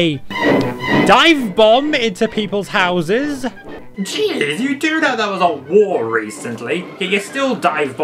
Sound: none

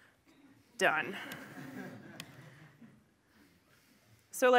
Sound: laughter

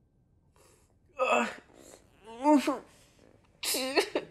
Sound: groans in pain

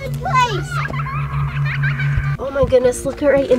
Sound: child laughing eerily

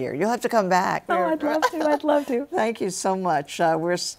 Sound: laughs

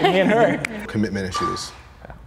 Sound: laughing

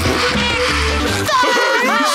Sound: laughing

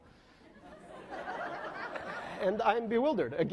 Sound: laughing

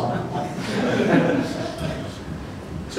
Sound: laughter

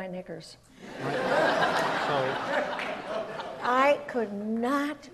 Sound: audience laughs

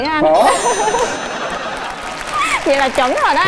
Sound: audience laugh

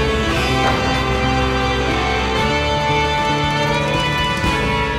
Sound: rocket roars; audience cheering; backboard clanks

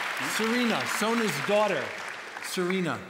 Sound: applause

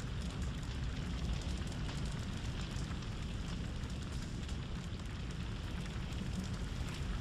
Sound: sound of fire

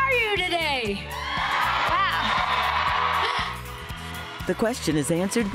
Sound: cheering

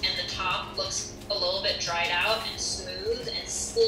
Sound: none

